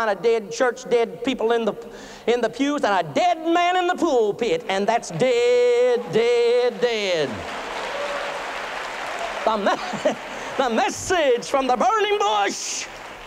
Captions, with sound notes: DEAD PEOPLE IN THE PEWS AND A DEAD MAN IN THE PULPIT, AND THAT'S DEAD, DEAD, DEAD! [APPLAUSE AND CHEERING] [LAUGHTER] THE MESSAGE FROM THE BURNING BUSH!